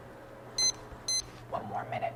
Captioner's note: timer beeps